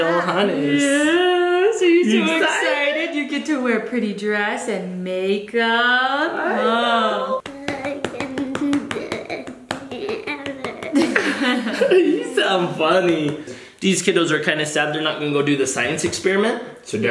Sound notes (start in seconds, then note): 11.0 everyone laughs